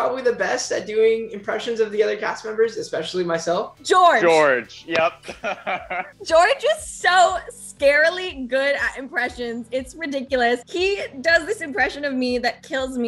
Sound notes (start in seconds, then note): 4.8 laughing